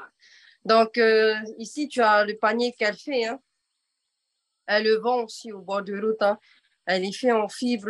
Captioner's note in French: En français